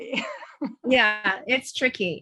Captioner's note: chuckles